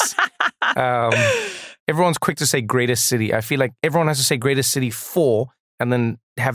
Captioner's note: laugh